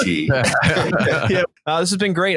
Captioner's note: all participants laugh